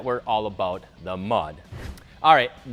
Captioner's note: whooshes